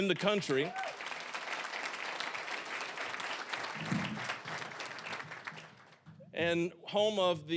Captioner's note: applause